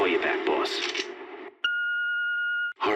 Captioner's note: gun cocks